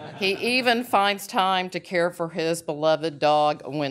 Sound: laughter

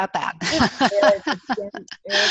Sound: laughs

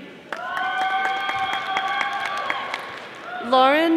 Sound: audience applauding

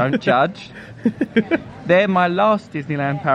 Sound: laughing

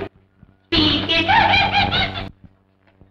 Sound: giggles

